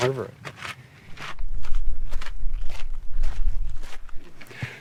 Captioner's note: gravel crushing